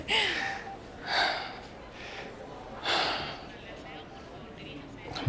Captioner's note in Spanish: Suspiros